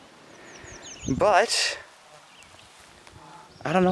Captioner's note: short pause